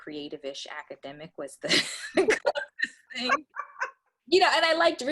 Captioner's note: laughter